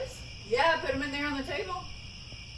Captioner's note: crickets